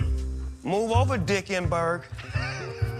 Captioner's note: laughs